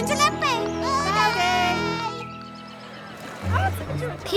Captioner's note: children call back